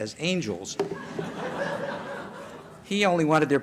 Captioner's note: laughter